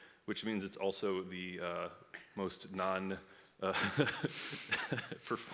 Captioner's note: laughs